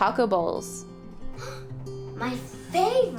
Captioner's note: gasp